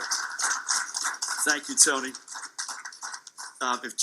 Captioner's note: clapping fades; audience clapping